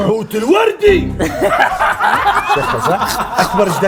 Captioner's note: laughing